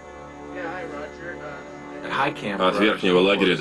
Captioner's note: on Radio